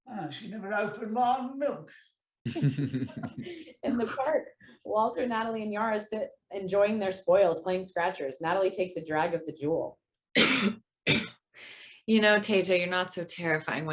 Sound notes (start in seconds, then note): 2.4 actors chuckling; 10.3 coughs